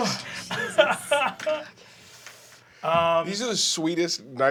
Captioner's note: laughing